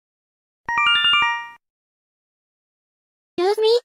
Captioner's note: Yume Nikki Instructions sound effect